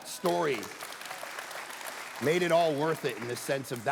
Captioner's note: congregation applauding